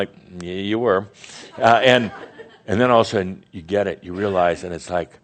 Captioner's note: more chuckles